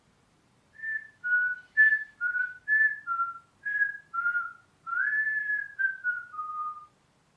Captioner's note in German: pfeift schief